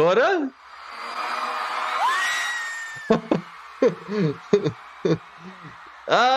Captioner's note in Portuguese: fãs brasileiros urrando